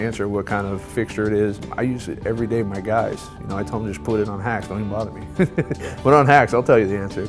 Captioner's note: laughs